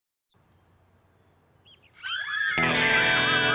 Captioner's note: birds chirp; children scream delightedly; hard rock music